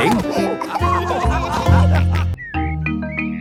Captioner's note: all laughing